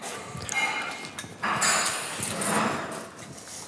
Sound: clinking in the background

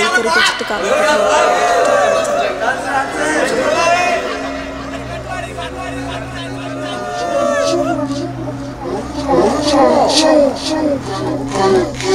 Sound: cheering sounds

